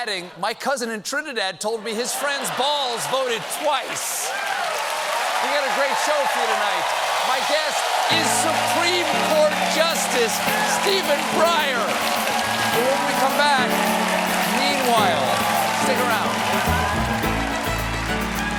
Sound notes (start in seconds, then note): 5.1 cheers and applause